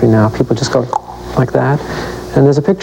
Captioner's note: clicks tongue